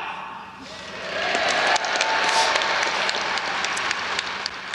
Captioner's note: audience applauds